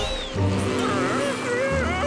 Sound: buzzing; groaning

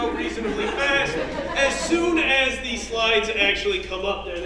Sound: laugh

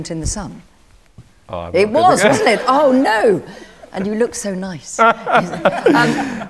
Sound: laughter

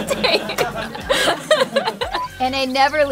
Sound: laughing

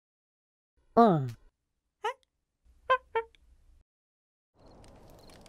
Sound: monkey chattering

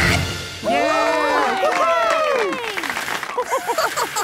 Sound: audience cheering

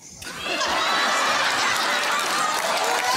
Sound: laughing

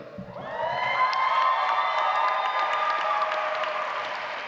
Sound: audience applauds

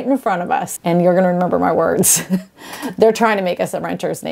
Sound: chuckles

